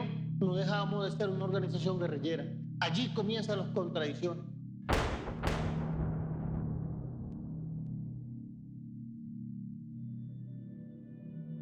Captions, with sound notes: And that’s where the contradictions started. ( gunshots )